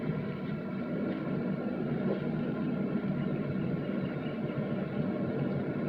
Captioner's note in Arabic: صوت محرك يعمل